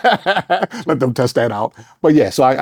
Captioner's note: laughing